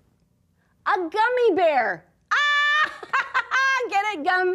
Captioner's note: laughs